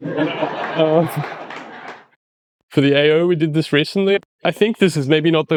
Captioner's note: audience laughter